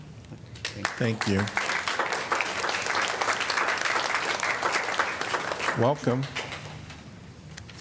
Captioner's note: applause